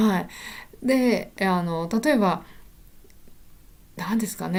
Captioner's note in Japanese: 息をのむ音